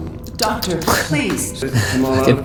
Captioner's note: chuckle